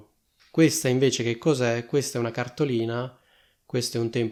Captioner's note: in Italian